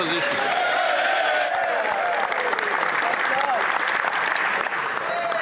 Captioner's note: some Applause